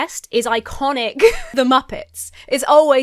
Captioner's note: laughs